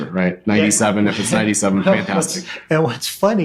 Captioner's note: laughing